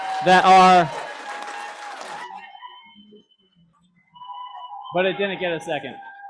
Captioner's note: applause